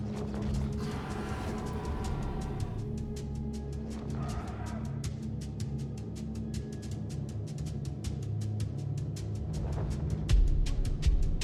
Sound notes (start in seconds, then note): 2.8 dragon growls